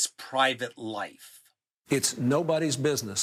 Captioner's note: soundbite of archived recording